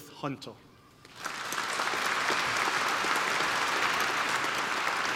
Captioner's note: applause